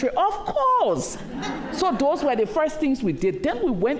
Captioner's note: laughter